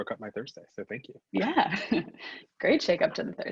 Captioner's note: laughs